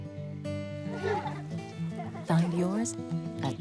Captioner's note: boy & girl laugh